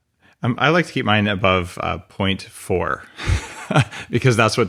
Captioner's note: laughs